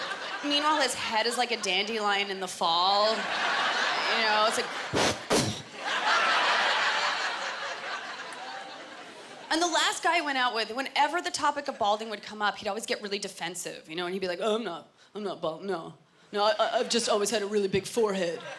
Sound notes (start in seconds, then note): 4.9 blowing; 5.5 laughter